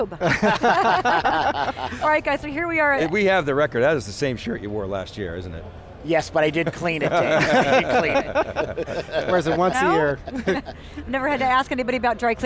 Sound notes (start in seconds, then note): 0.1 laughs; 6.9 laughs